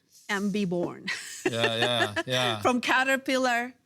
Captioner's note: laughs